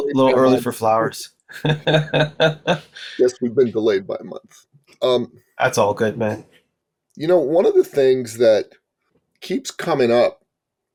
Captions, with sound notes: early for flowers. (laughing) - Yes, we've been delayed by a month. - That's all good, man. - You know, one of the things that keeps coming up